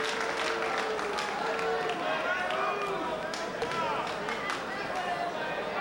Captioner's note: spectators cheering